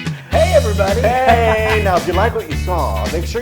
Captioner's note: laugh